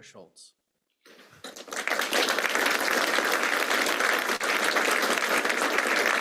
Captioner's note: applause